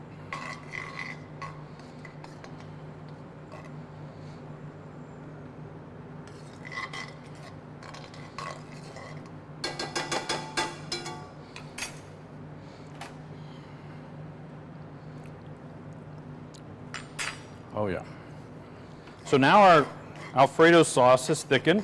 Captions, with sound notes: (utensil scraping) (utensil thudding) Oh yeah. So now our Alfredo sauce is thickened